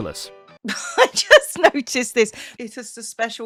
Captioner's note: laughs